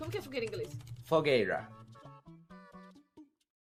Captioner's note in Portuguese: sotaque inglês